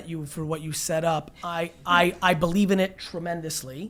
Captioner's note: laughing